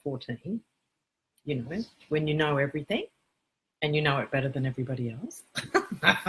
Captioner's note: laugh